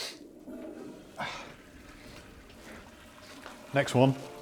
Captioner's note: toilet flushing